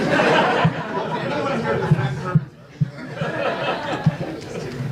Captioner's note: audience laughs; audience laughs